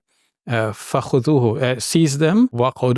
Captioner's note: speaking in Arabic